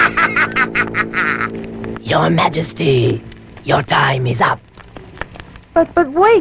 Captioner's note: cackling